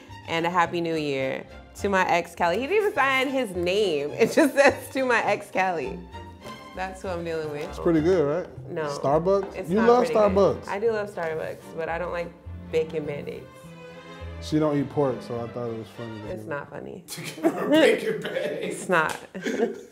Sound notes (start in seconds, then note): 19.2 laughing